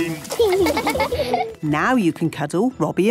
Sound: laughing

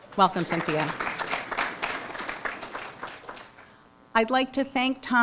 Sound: applause

